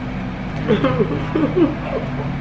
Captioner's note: giggles